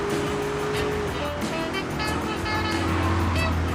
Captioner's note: muffled yelling